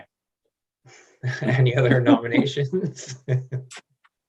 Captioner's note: laughing